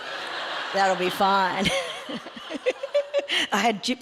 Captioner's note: audience laughs